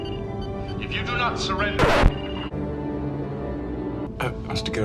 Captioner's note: record scratch